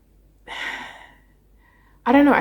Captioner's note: sighs